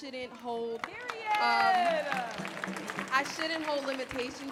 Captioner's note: clapping